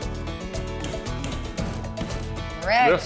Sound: hammering

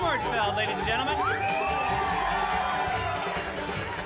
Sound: audience cheering

